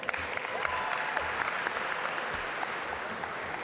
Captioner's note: audience applaud